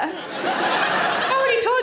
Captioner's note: audience laughing